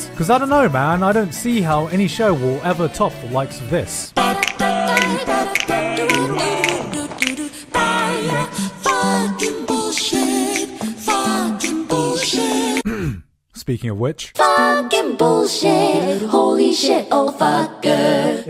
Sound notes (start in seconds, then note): 12.8 clears throat